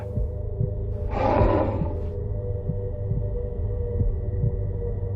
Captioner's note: glass scraping